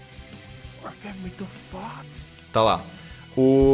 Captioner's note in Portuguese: sussurro